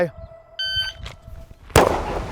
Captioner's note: electronic beeping; gun firing